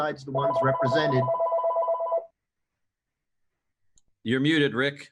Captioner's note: phone ringing